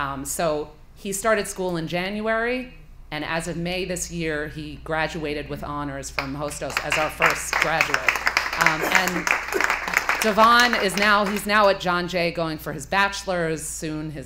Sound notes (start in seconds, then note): 6.4 applause